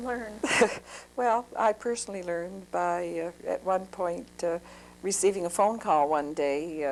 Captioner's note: laughs